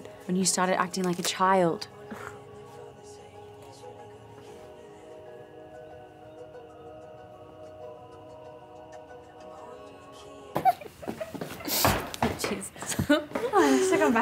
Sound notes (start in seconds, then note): 2.4 background music; 10.5 muffled giggles and footsteps